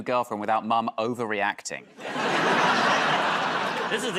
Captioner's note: laughter